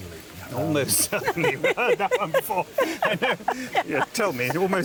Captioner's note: they laugh